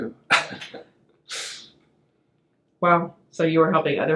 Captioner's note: laughs